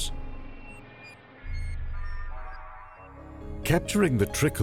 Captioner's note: daunting electronic effects